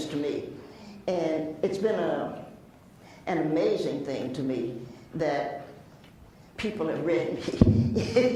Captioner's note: laughs